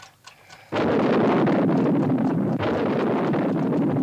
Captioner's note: thunder rumbling